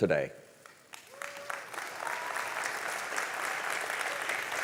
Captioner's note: audience applauding